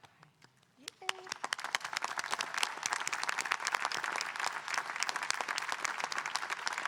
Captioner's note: audience applauding